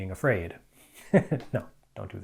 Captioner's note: chuckles